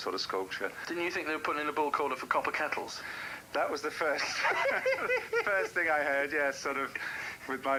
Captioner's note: laughing